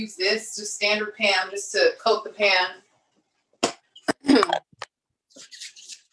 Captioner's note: coughs